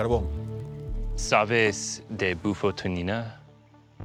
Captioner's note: speaking Spanish